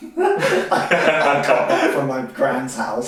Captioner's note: laughing